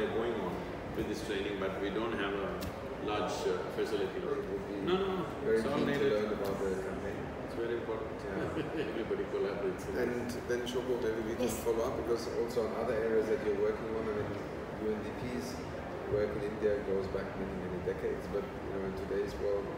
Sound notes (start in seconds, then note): 8.3 laughs